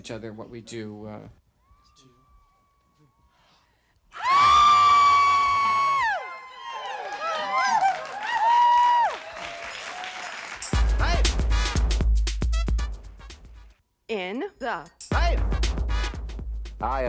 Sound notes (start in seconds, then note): 4.2 all singers scream then hoot; 8.2 audience hoots and claps; 10.8 audience continues clapping